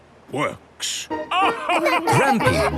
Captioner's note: all laugh